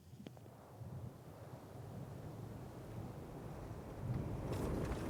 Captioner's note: car rumbling